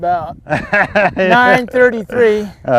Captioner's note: laughter